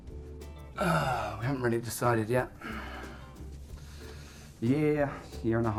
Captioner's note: sighing